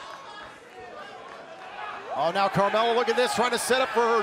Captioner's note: crowd cheering